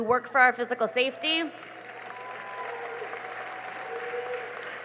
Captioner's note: cheering and applause